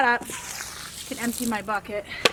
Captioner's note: water splashing